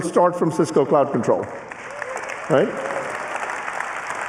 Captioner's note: applause